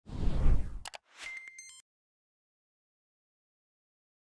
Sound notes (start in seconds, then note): 0.0 whooshing